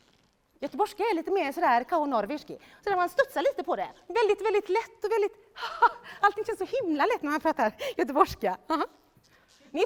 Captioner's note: speaks in Swedish